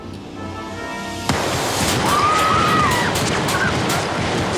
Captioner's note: guns firing; wimps screaming